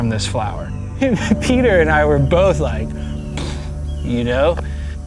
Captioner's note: imitates explosion